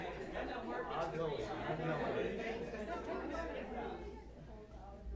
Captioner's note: chatter